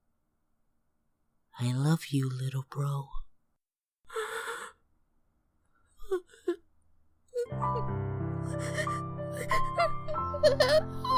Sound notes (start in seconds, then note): 4.1 gasps; 8.4 crying